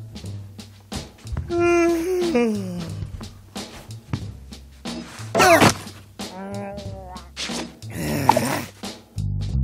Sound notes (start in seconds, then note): 1.5 Charles yawns